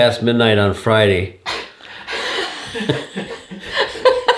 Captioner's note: laughing